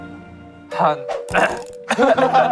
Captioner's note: ahem